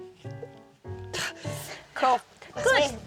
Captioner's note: straining